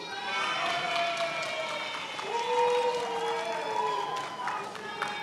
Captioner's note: attendees applauding